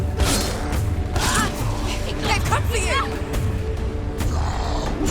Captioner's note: scream